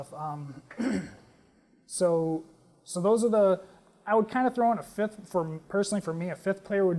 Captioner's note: cough